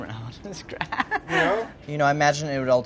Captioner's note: giggles